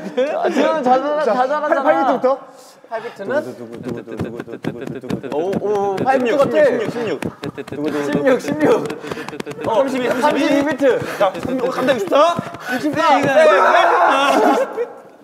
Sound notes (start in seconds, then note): 7.4 laughter